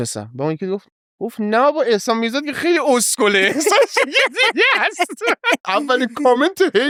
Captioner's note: laughs